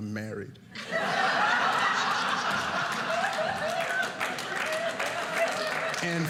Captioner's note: audience laughing